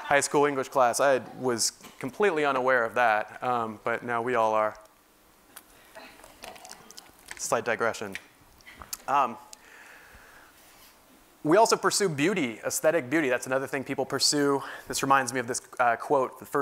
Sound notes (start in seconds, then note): 5.2 laugh